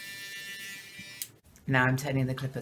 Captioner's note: click